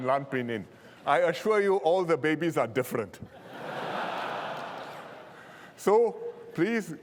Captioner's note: laughter